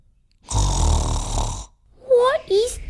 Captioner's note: snoring!